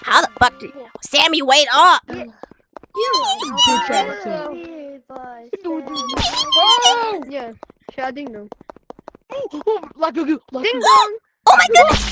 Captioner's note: mockery sounds